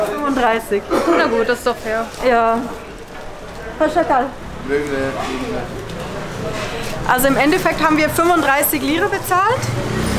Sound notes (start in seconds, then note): 3.7 Turkish